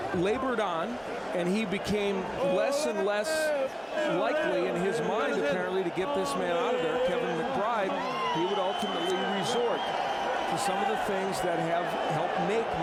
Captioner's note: applause